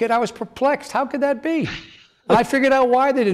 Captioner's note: laughs